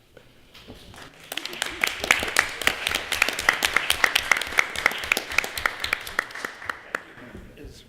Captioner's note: applause